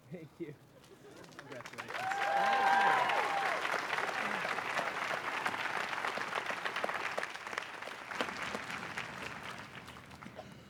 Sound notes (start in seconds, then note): 1.3 applause and cheers